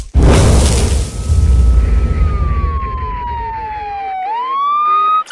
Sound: crackling Flames; ambulance Siren Wailing

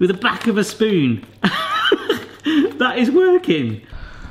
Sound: laughs

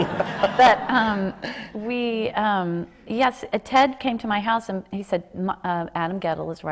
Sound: laughter

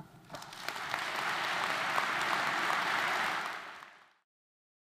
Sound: audience applauding

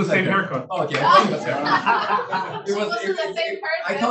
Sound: laughing

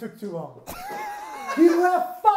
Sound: chuckles

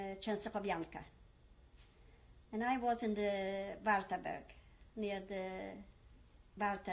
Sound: german

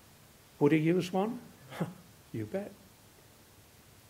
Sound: scoffs

